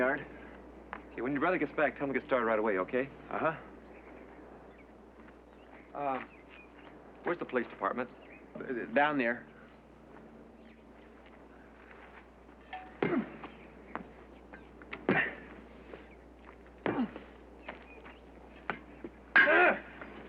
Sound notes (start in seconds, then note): 13.0 grunting; 16.8 grunting